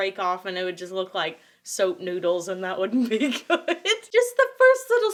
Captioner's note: laughs